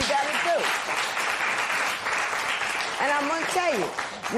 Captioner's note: applause